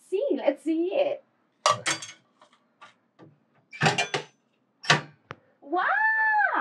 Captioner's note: coin box operating